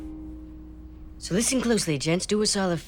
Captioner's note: Travis high-pitched voice